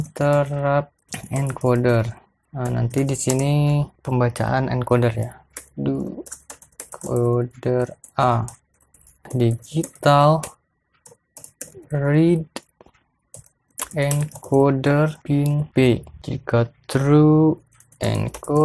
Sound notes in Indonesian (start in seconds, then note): 5.9 typing code